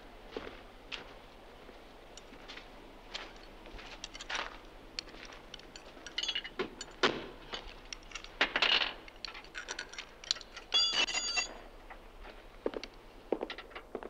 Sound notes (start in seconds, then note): 4.9 tools clanking